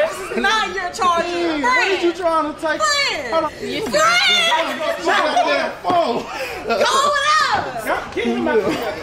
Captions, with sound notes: - This is not your charger! Friend! - What is you tryin' to take? - Friend! - Friend [laughs]! Go over there!